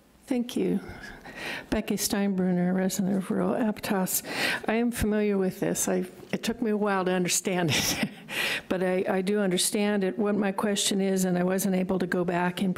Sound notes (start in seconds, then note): 7.8 chuckles